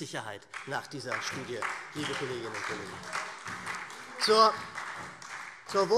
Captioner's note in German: Beifall SPD - Zuruf